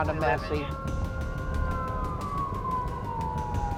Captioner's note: ambulance sirens